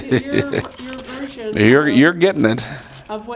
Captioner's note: laugh